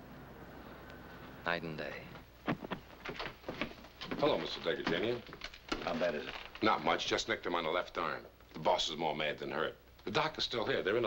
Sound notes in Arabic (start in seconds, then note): 4.6 يتمتم